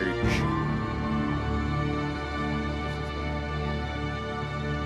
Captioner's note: audience members cheering